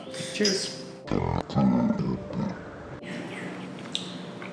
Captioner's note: person belching